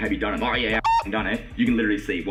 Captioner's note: beep